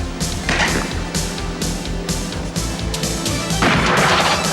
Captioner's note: guns firing